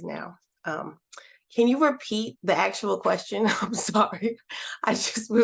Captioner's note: laughter